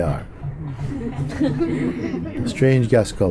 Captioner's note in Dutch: gelach